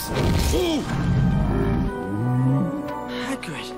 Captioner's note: grunting